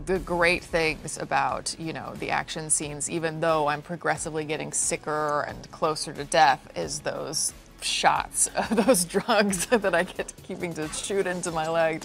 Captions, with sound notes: One of the great things about, you know, the action scenes, even though I'm progressively getting sicker and closer to death, is those shots (laughs) of those drugs that I get to keep shooting into my leg,